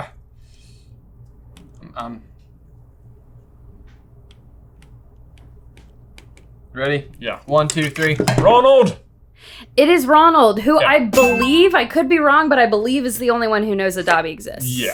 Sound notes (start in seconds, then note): 4.6 marker clacking; 7.6 boards clack